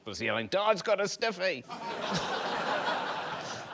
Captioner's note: laughter